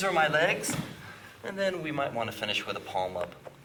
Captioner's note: loud thumping